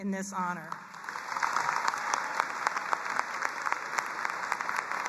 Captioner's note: audience applauds